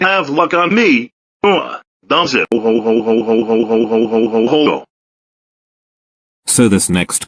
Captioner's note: laughs